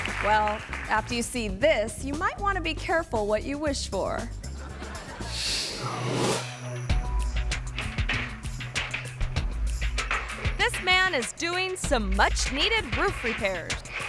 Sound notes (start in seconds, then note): 4.5 audience laughing; 6.5 mid-tempo music